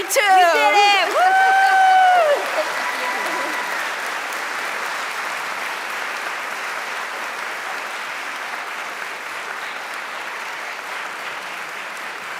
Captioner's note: applause